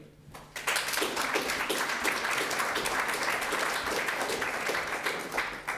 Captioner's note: audience applauding